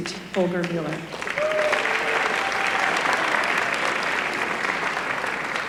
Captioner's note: applause